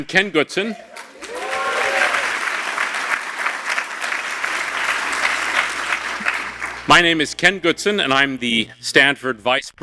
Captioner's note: applause